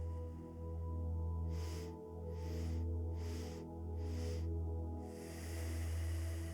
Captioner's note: exhales deeply through the nose; inhales four sharp breaths through the nose; exhales deeply through the nose